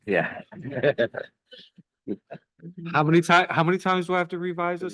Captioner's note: group chuckling